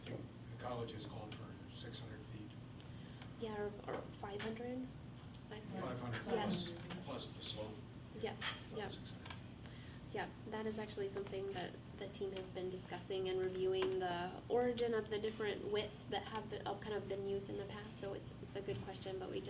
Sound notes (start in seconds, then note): 7.0 faintly speaking